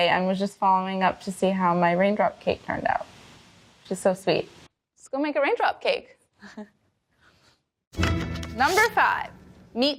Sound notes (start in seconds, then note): 7.4 laughs; 8.0 melodic beat